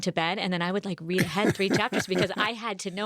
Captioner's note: laughs